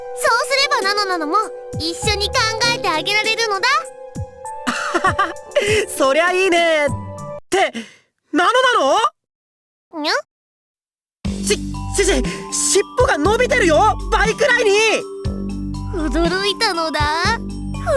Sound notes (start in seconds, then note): 4.6 laugh